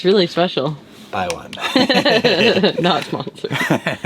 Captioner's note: both laugh